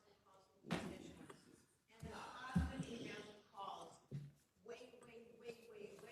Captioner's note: faintly speaking